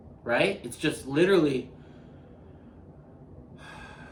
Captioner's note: exhaling